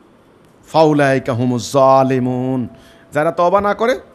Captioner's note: Arabic